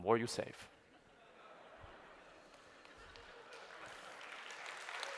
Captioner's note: laughter, applause